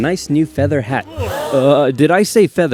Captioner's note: gasp